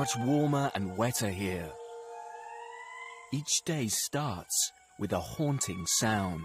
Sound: lemurs bellowing and squeaking

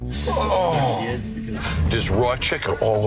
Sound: all groaning

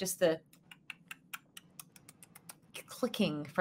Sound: Deborah clicks tongue

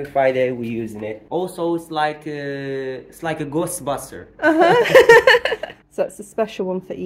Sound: laughing

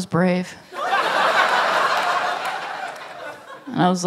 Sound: laughter

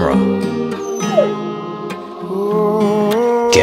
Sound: dog Cries

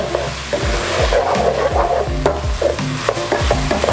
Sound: sizzling; spoon scraping

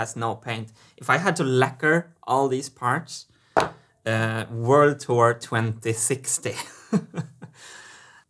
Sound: chuckles

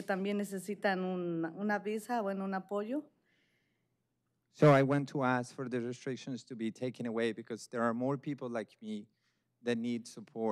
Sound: speaking spanish

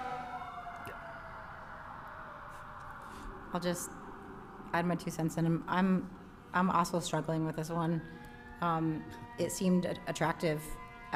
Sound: sirens in background

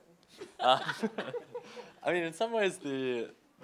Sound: chuckles

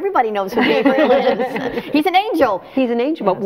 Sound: all laughing

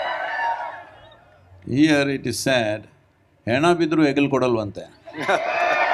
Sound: cheering; speaks in Kannada; cheering

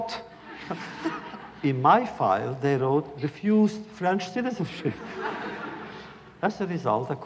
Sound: laughter

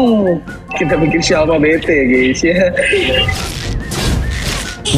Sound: laughing

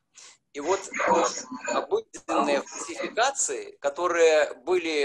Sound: speaking foreign language

